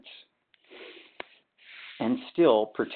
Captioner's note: sliding static